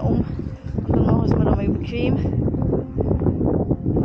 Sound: wind

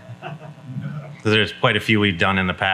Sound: folks laughing

